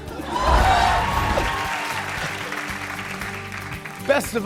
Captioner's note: cheers and applause